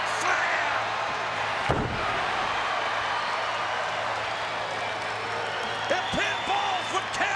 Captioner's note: applause